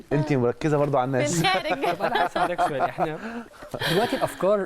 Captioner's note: laughs!